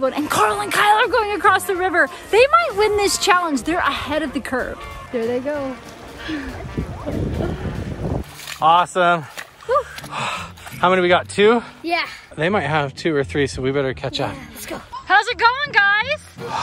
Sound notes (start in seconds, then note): 9.7 exhales